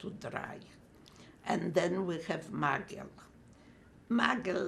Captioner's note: non-english